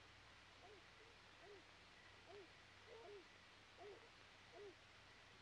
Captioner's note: dogs faintly barking